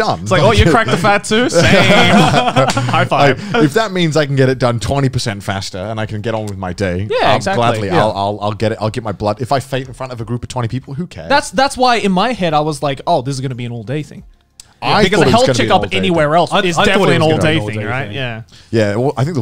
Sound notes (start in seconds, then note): 2.9 laughing